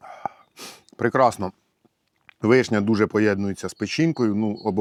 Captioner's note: sigh